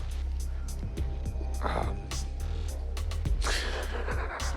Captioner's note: laughs